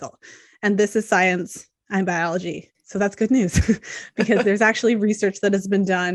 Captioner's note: laughter